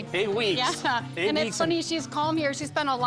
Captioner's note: laughing